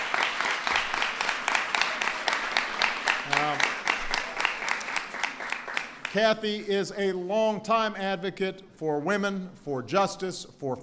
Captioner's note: applause